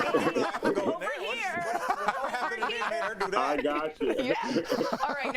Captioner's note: laughter